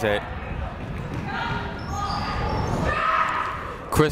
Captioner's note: people shouting in the crowd